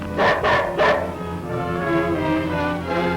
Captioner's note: dog barks